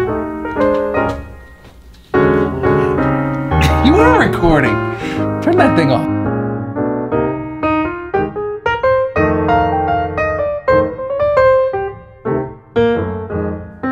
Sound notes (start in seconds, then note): 2.4 laughing; 6.4 piano keys playing